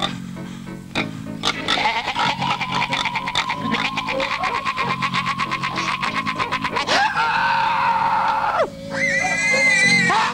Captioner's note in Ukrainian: сміх